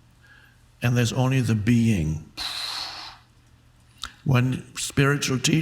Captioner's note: exhales